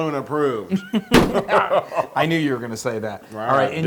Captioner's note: laugh